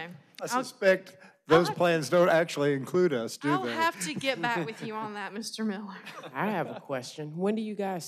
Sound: laughter

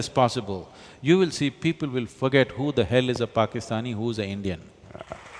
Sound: applause

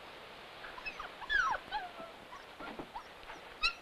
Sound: dog whimpers

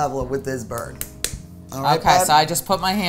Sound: slapping

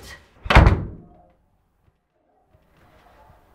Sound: door slams

